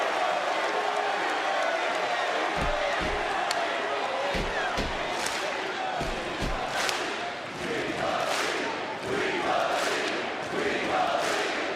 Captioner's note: crowd chants